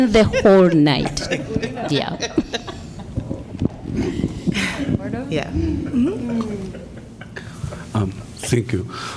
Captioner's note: laughter